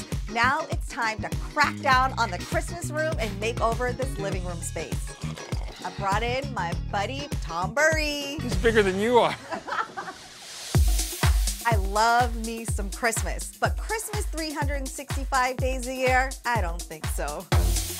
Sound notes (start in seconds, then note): 5.1 grunts; 9.2 laughter